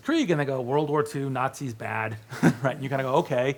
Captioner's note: laughs